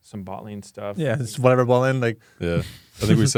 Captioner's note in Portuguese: risos